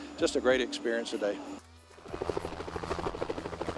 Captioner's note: helicopter Sound